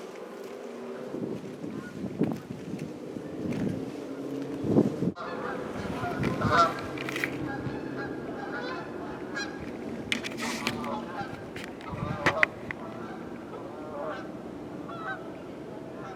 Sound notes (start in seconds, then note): 1.8 geese honking